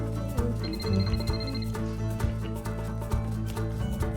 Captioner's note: phone rings